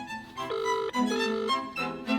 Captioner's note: phone Ringing